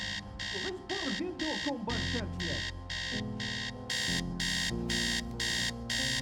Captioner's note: man chattering in unknown foreign language